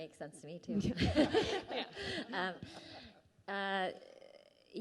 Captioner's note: laughing